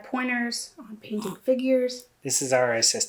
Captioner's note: kitten Grunts